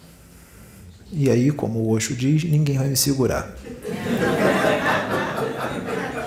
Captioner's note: laughs